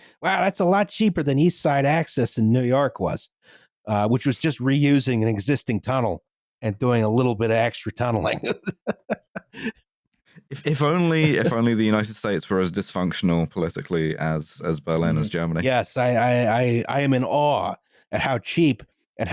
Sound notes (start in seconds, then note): 10.5 laughs